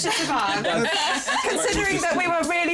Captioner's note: laughter